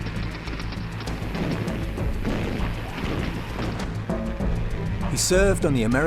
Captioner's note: gunfire, explosions